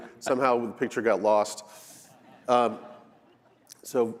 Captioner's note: laughter